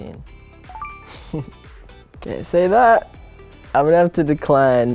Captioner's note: laughing